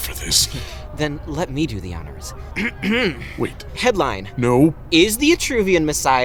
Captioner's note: clearing throat